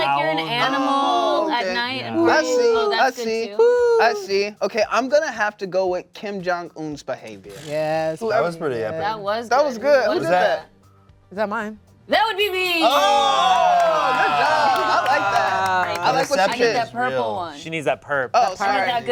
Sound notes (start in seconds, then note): 3.1 imitates owl; 12.7 cast exclaims; 12.9 bell dings; 16.3 claps